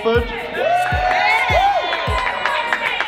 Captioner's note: cheering